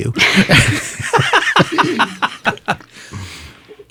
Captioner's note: all laugh